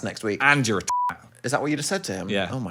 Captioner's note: beep